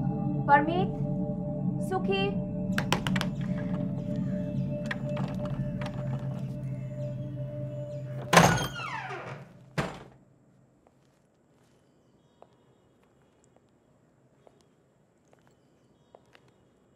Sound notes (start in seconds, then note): 2.8 knocking; 8.0 door opening